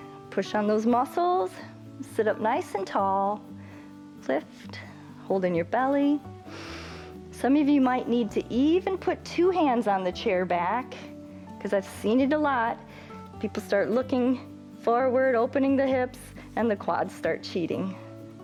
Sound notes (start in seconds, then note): 6.4 inhales